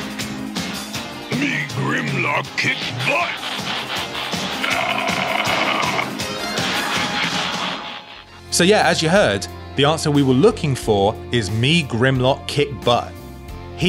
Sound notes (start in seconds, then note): 5.2 Grimlock groans